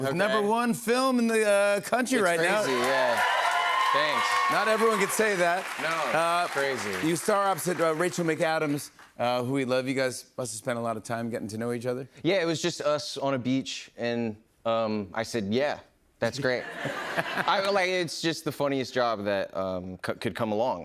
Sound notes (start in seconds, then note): 2.3 cheers and applause